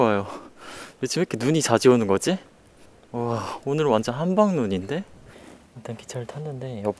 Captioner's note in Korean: 야외 환경, 보통 크기의 목소리로 말하는 중